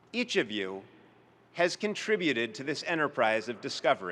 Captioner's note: none